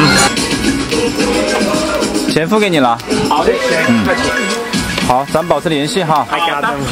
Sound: speaks in Chinese

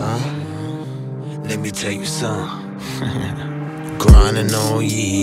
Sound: ha ha

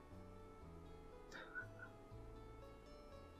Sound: chuckles

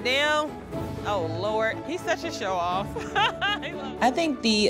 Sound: laughs

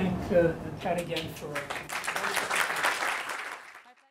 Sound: applause

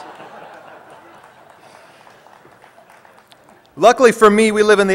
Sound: laughter

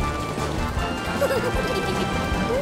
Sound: laughing

